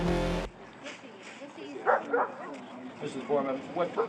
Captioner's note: indistinct talking, dog barking